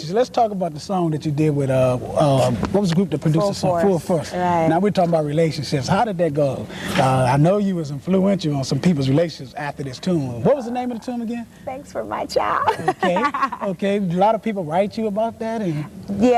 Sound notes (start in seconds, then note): 12.5 laugh